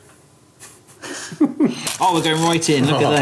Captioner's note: they chuckle